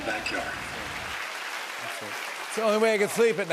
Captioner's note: applause